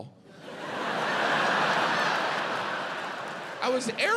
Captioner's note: audience laughs